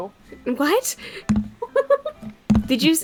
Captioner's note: laughs